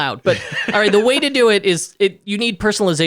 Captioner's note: laughing